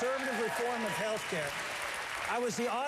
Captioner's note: applause